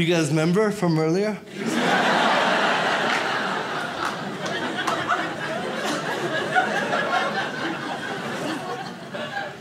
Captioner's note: audience laughs